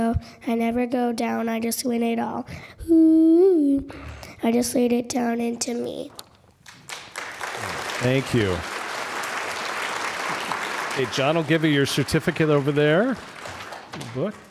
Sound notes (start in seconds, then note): 6.2 applause